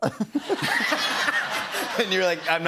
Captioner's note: laughter